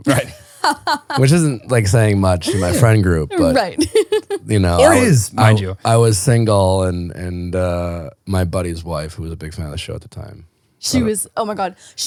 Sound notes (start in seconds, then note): 2.4 laughs; 3.3 laughing